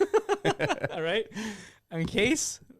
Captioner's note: laughing